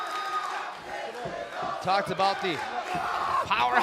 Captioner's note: fans chanting